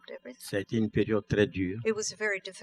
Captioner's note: speaking french